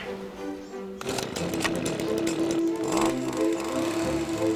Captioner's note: machine revs